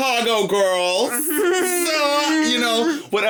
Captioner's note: chuckling